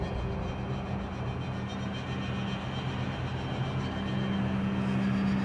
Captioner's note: wind blowing